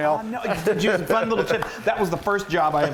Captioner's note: laughs